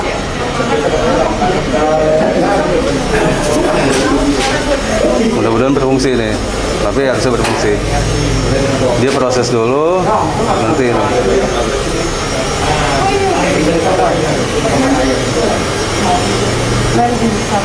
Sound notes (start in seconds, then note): 9.8 printer machine sound; 11.5 printer machine sound